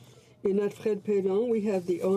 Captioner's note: speaking French